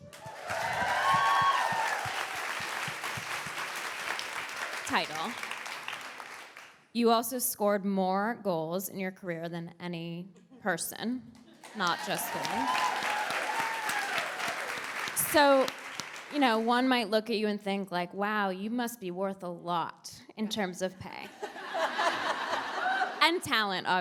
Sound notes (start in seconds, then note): 14.8 audience cheers; 16.7 audience applauds